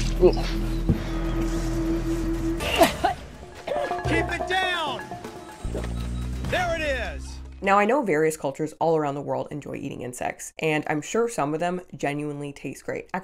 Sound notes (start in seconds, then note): 0.6 tense dramatic music; 2.7 woman and man gagging; 5.1 dramatic music